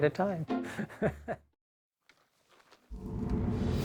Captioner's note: chuckling; intense music